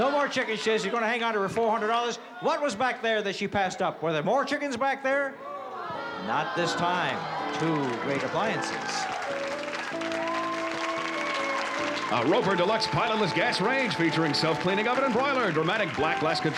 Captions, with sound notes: She says she's going to hang on to her $400. What was back there that she passed up? Were there more chickens back there? [CROWD GROANS] Not this time. Two great appliances. [UPBEAT MUSIC] [APPLAUSE] - A Roper Deluxe pilotless gas range featuring self-cleaning oven and broiler. Dramatic black glass control panel